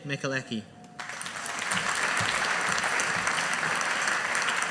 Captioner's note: audience applauding